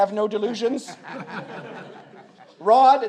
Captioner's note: audience laughs